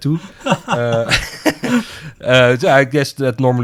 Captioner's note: both laugh